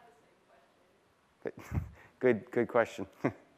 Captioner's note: chuckling